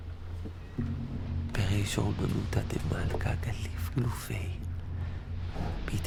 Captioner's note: reading ancient Aramaic text